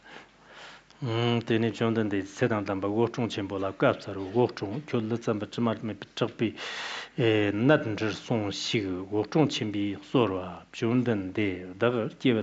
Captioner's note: giving oral transmission in Tibetan